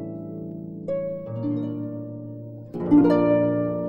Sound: none

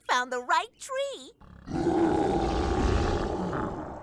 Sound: roaring

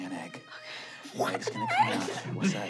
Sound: gasping

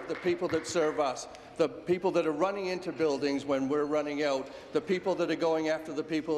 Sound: applause

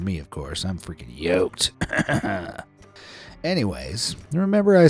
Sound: chuckles

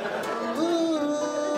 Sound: audience laughs

